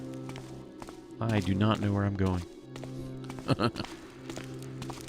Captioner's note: laughs